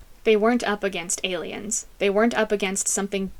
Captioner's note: none